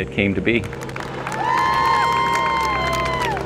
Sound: applause

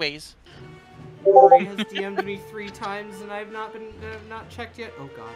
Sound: three rapid discord pings

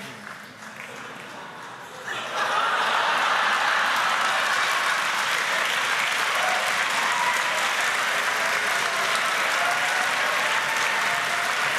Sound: wild laughter & applause

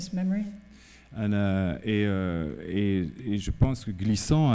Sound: speaking french

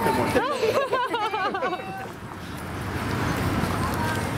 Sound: laughing

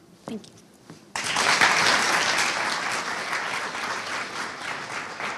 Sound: audience applauding

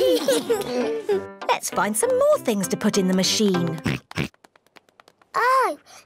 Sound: oinks

